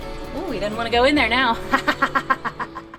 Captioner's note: laughing